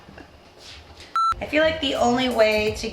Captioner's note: beep